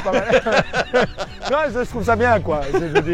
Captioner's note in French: Rires